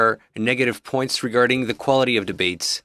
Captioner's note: speaking in French